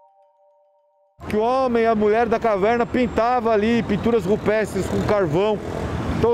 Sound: speaking in Portuguese

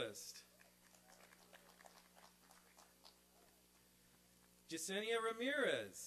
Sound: applause and cheering

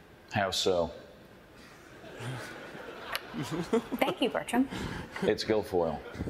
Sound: laughing

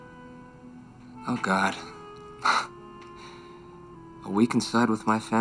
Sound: chuckles

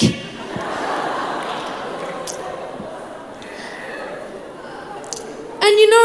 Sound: crowd laughs

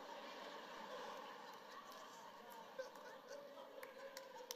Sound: congregation laughing

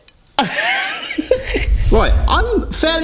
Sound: laughs

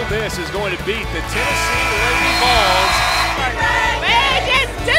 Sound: buzzer

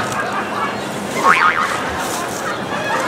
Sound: cartoon boing; laughter

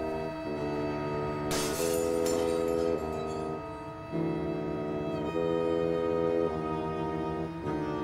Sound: glass breaks

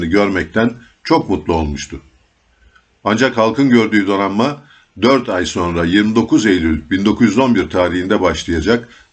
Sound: Italian

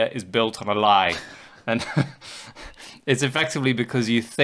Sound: chuckling

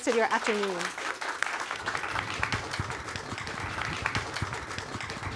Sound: audience applauding

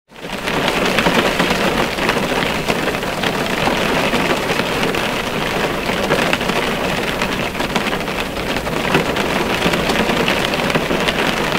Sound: relaxing Rain Sounds

